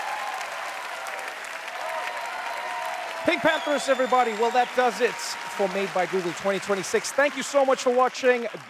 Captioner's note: applause